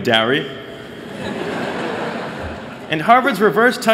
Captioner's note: laughter